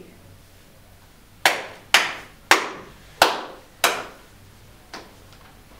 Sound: Martin claps loudly

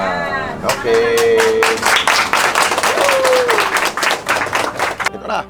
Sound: applause

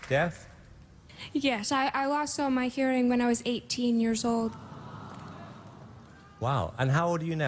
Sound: audience applause; collective Awe from crowd

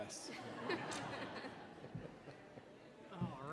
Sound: audience chuckling

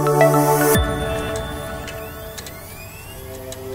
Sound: computer starting up

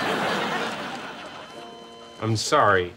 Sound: beeping

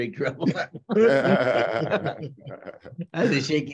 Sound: laugh

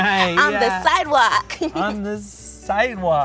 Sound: giggles

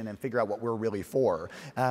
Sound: none

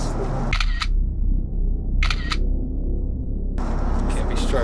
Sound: camera snapping

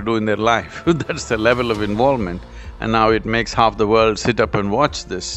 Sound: laughs

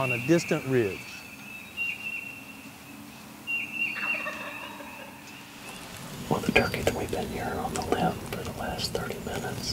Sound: whispering

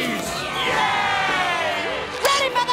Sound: crowd cheering

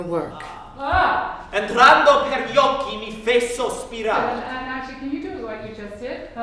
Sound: speaking Italian

